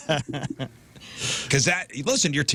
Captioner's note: laughing